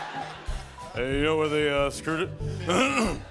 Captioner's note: laughter; deep voice; clears throat